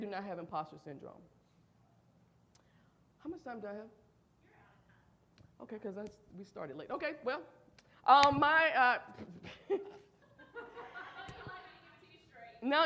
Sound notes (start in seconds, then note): 8.3 audience laughs